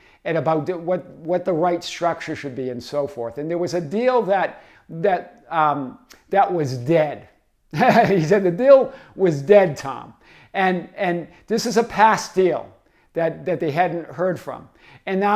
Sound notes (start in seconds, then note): 7.7 laughs